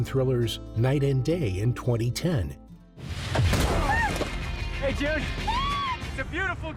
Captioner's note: June screams